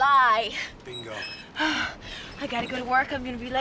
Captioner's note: panting